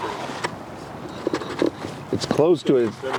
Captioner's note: hubcap scrapping